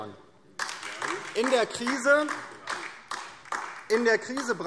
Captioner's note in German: Beifall DIE LINKE